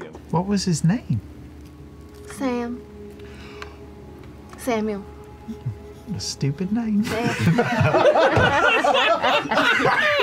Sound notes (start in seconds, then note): 3.2 intake of breath; 7.0 group laughter